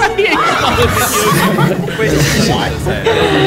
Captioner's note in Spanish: No puede parar de reír